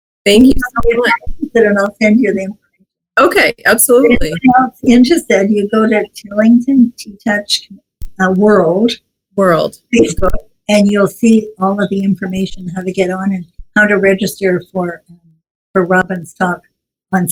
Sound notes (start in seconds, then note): none